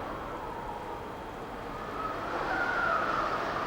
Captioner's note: wind howling